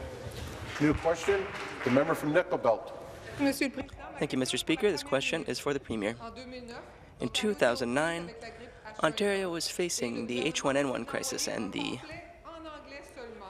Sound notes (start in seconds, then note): 5.8 speaking in French